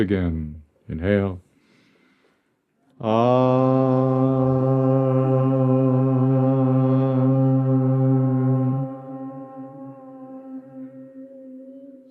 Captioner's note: chanting